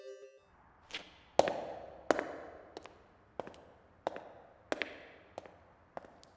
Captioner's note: footsteps